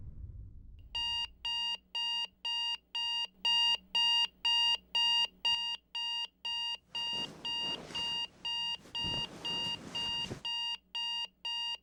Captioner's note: alarm Beeping